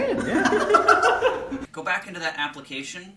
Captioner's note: laughing